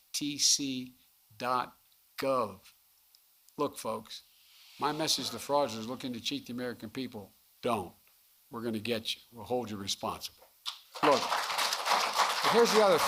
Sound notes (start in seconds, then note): 10.7 applause